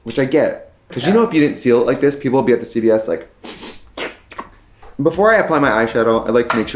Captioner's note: sniffing and slurping